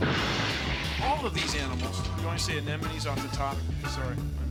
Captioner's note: <i> crashing</i>